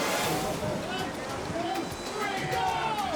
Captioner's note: edgy dramatic music; rescuers shouting